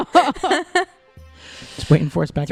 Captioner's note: laughter